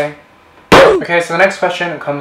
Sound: ooh! Effect

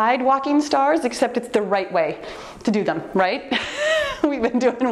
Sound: laughs

